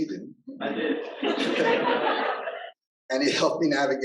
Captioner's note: audience laughter